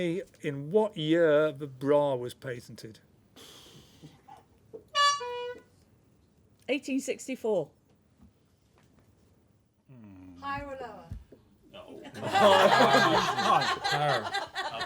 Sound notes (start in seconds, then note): 4.9 honk; 12.1 laughter